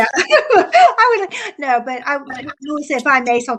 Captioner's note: laughs